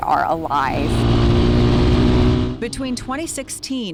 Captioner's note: engine rumbling